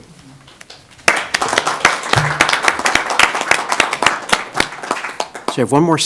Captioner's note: applause